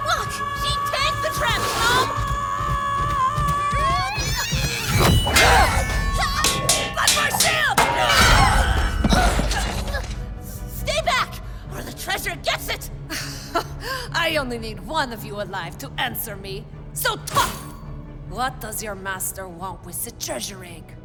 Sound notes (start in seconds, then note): 7.6 she shouts with effort as she knocks Nom aside with her shield